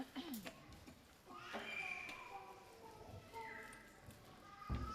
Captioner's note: baby crying